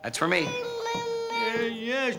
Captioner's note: Lucia jabbering